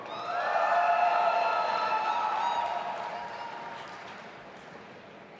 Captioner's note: audience applauding and cheering